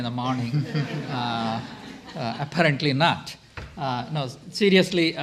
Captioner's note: audience laughs